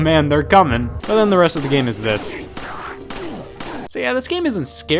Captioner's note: pistol gunshots